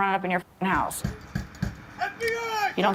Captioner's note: hand banging